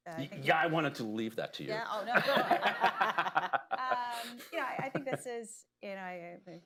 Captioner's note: laughter